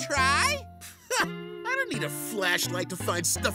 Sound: scoffs

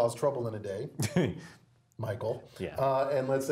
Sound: laugh

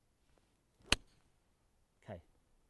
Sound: hitting ball

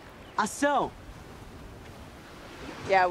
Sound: speaking foreign language

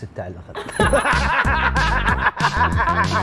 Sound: laughing

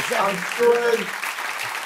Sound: cheers and applause

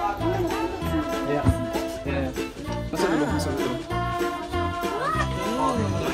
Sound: speaking German

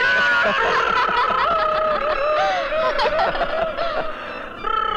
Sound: laughs

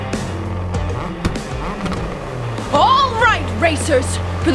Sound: engines revving

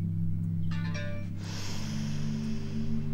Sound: mobile chimes

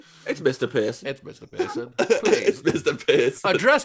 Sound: laughter

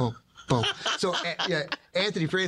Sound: Spike laughing

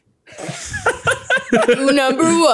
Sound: laughing

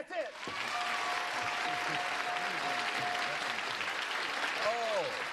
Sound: cheers and applause

